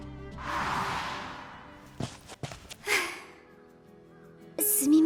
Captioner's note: sigh